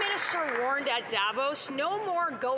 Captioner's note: applause